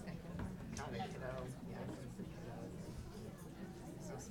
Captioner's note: people chattering